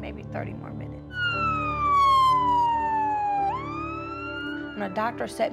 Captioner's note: siren wailing